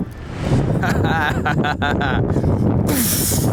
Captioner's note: laughs; wind gusting